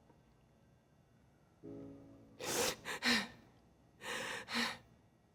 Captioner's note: panting